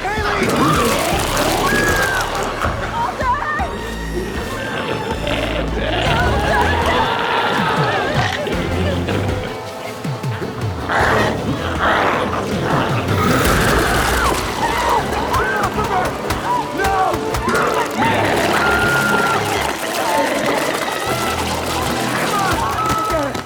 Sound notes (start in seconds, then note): 0.1 Chalee screams; 4.2 glowzie roars; 11.3 glowzie growls; 13.2 Chalee screaming; 18.7 glowzies growling